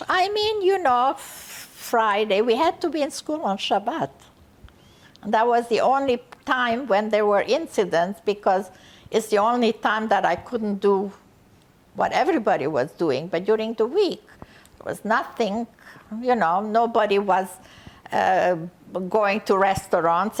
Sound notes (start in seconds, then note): none